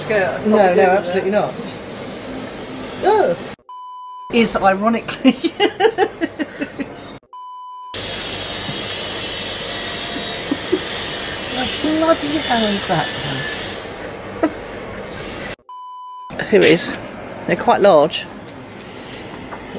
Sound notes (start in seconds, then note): 3.6 beep; 5.1 laughing; 7.3 beep; 7.9 loud drilling; 14.2 laughing; 15.7 beep